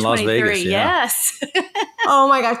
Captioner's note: chuckling